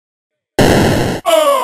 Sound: boom

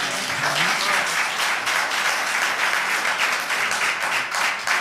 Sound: applause

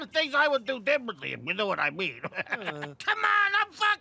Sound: laughs

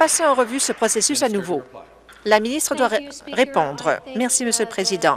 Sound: some Applause

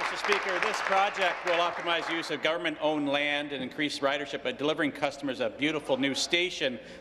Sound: applause

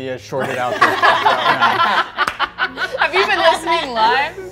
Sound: all laughing

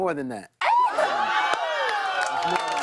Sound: cheers and applause

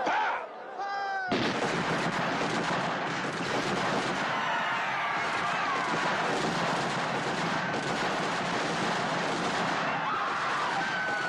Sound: gunshots and screaming

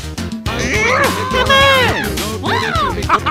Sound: grunt

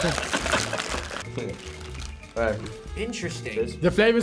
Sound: laughs

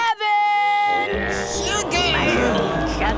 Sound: zombies groaning

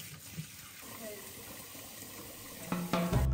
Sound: water splashing; water running; bright music

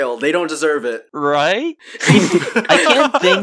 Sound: laugh

